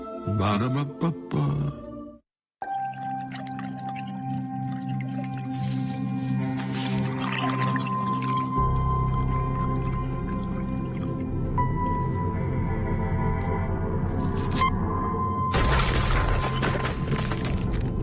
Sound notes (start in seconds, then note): 9.1 liquid bubbling; 17.8 thud